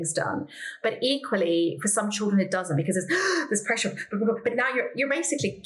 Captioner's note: fearful noises